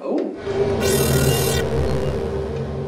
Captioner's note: sound of display appearing